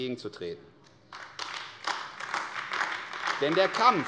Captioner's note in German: Beifall AfD